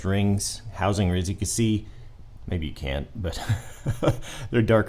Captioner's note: laughs